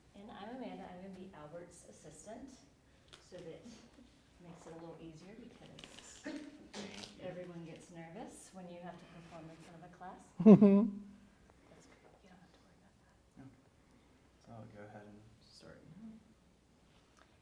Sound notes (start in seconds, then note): 10.4 laughs; 11.9 whispers